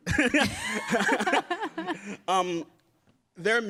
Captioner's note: laughs